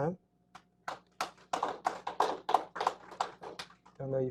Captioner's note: applause